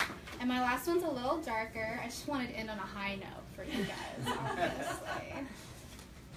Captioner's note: clapping; laughter